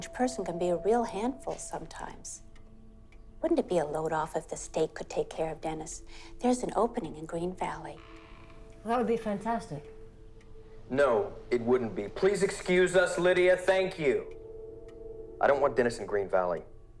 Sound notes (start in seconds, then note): 7.9 door creaking